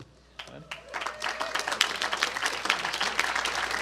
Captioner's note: applause